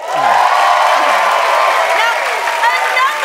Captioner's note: cheering and applause